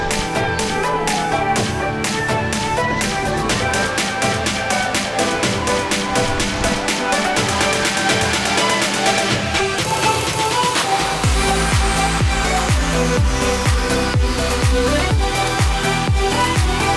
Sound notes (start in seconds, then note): 7.9 happy yelling; 10.5 upbeat music